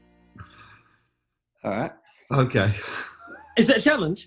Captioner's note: chuckling